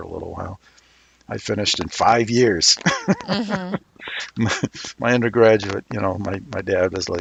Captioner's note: laughs